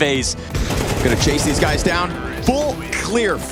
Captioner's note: gun firing